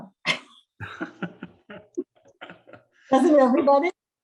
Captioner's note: chuckles